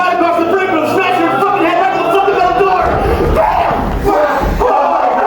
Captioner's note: aaaaaaaaaaaaaaaaaAAAAAAAAAAAAAAAAAAAAAAAARGH